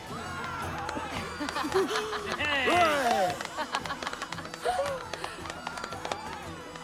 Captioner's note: laughter and applause